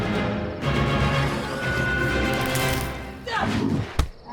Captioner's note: zombie spartacus screeching; banana thudding; zombie spartacus roaring